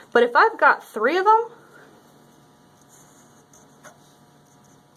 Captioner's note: writing sounds